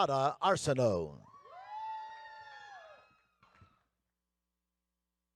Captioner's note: audience cheering